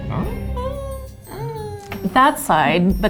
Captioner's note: groans